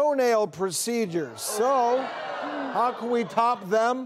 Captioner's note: audience groaning